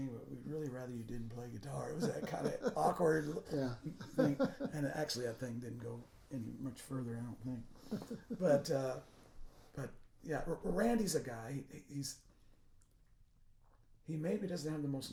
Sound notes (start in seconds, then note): 4.3 laughing